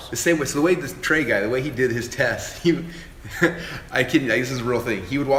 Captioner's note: laughter